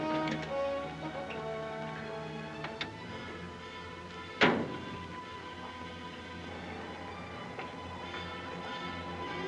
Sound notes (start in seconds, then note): 4.4 car door closes; 6.1 soft ominous music